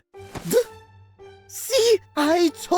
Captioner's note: yelp!